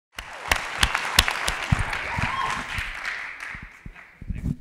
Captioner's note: audience clapping